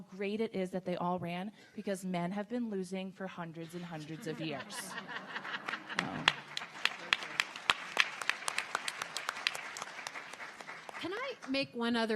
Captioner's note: audience laughter